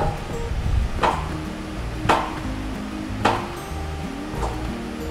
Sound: trampoline clacking

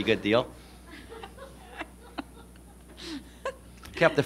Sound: laughter

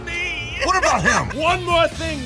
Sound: rocket laughing

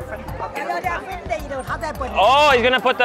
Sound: speaks in Mandarin

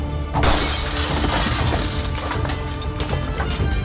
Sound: glass breaks; thrilling music

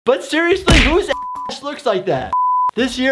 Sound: beep

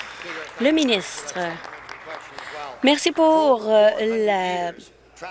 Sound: applause

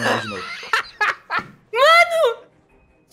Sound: laughing

